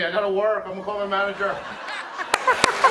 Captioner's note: laughter, cheers, applause